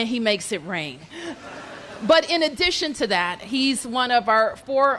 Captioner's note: laughter